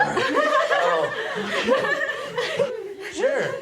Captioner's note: girls giggling